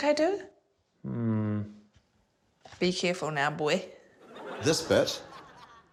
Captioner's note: laughter